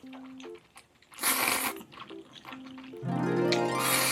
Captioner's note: noodle slurping #1; noodle slurping #2